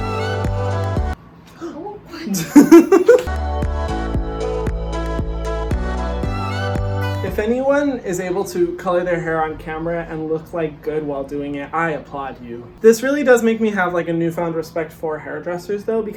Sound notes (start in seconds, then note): 2.2 laughs; 3.2 dance music plays